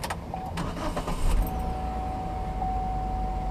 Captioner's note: engine starts